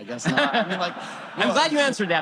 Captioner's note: audience Laughter